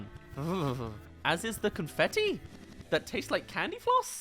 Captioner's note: shudders